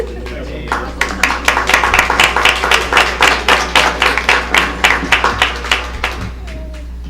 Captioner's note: applause